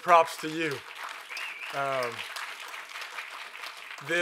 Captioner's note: applause